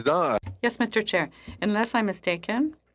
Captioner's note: speaking French